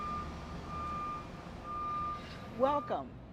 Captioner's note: beeping sound of a truck backing up